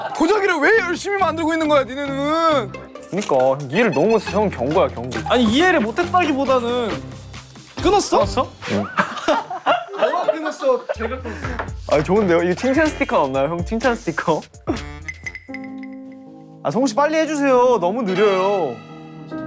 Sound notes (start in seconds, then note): 8.6 satisfied laugh